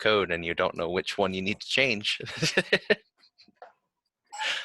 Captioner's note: laughs